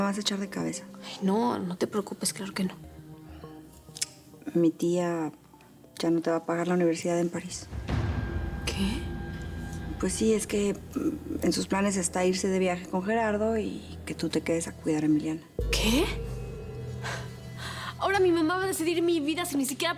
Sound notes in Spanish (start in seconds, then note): none